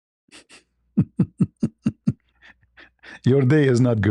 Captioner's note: ketawa